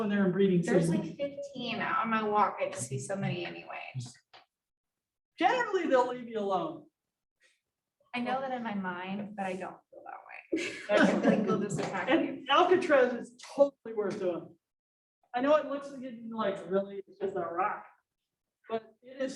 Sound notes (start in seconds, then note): 10.5 laughter